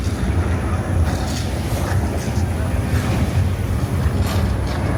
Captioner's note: tram rattling